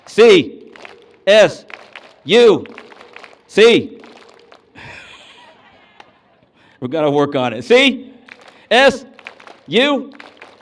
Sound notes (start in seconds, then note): 0.6 clap; 0.7 clapping; 4.7 laughs; 8.2 clap; 8.2 clapping